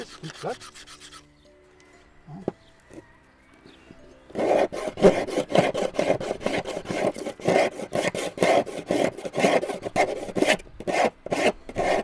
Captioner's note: knife scrapes on wood